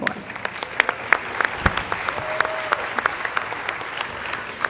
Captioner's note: audience applauding